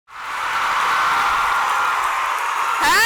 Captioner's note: cheers and applause